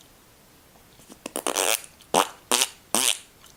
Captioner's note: makes gross noises